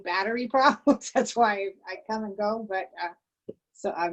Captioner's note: laughter